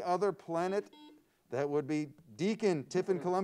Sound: buzzer sounds

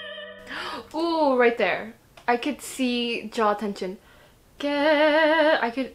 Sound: gasp

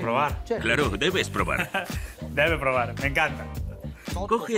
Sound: laughs

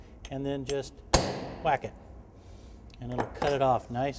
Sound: hammer hitting iron

